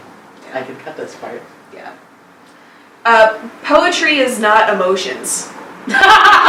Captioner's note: laughs